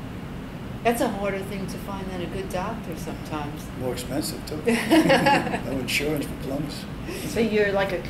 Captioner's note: all laugh